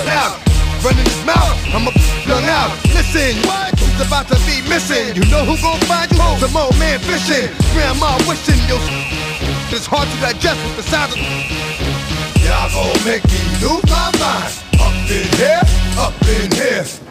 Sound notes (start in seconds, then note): 8.5 whistles